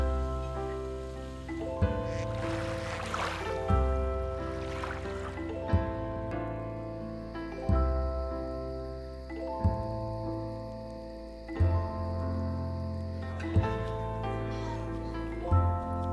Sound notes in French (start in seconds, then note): 4.6 bruits de vaguelettes; 7.1 chants de criquets